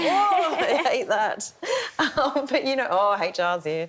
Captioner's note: laughing; laughs